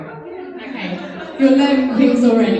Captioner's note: audience laughing